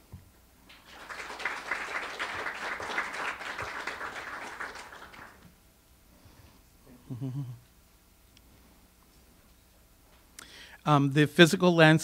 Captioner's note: audience applause